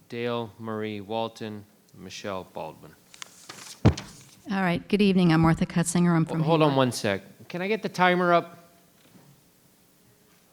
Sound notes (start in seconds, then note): 3.1 paper rustling; 3.4 arm thumping